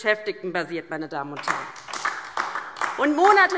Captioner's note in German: Beifall DIE LINKE